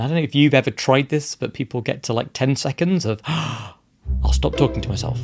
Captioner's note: gasp